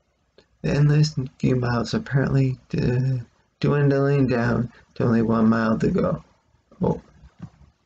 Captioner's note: whispering